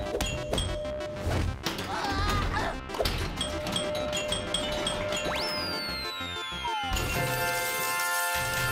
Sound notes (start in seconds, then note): 1.2 grunting